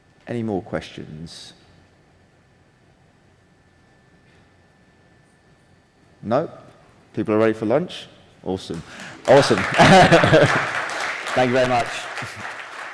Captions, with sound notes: Any more questions? Nope, people are ready for lunch. Awesome, awesome. -(attendees applauding) -Thank you very much.